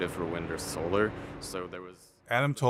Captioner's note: ses sönüyor